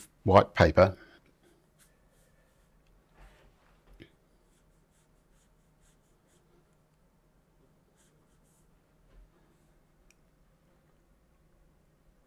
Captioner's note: silence